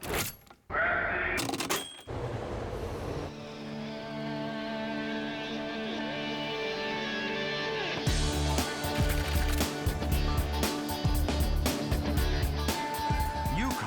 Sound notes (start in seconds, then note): 0.1 key clunks; 1.4 ticket punch whirs; 1.6 bell pings; 2.1 train rumbling; 4.6 vibrant music; 9.1 destination board clacking